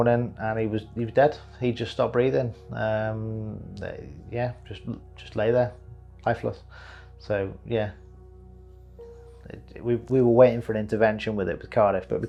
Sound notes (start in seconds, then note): none